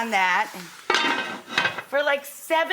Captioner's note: lid clanks